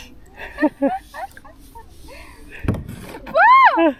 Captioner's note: laugh together